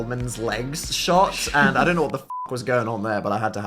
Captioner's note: beep